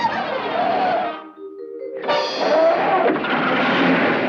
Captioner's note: rock screeching; rock accelerating